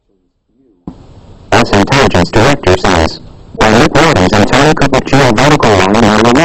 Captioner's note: iPhone reading with distorted speakers